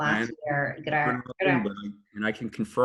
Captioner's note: audio distorts